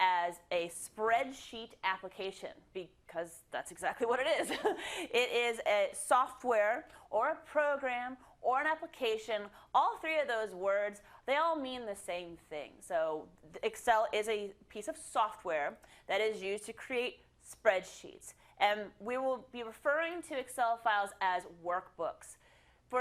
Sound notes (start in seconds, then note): 4.5 laugh